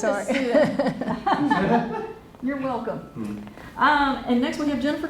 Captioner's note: laughter